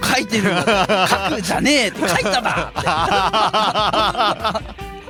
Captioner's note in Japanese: 笑い